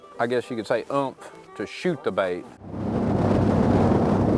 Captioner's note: wind rushing